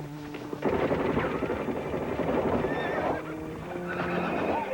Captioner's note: horse whinnying